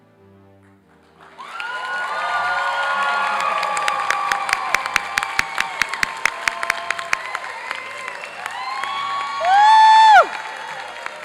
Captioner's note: classical orchestral music; applause and cheering